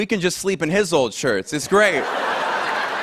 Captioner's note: laughter